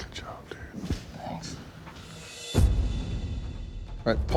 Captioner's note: whispering